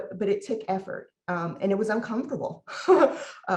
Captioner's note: laughs